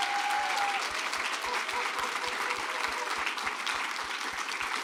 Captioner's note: applause